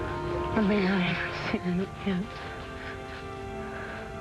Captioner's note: crying